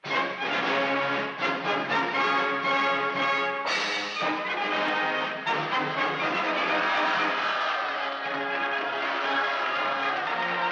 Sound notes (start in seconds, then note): 0.1 upbeat marching music; 6.9 crowd cheering